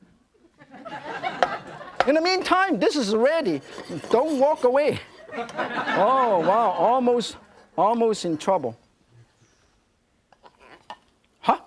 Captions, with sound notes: (audience laughing) - In the mean time, this is ready, don't walk away. (audience laughing) - Oh, wow. Almost, almost in trouble,